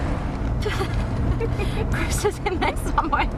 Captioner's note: laughing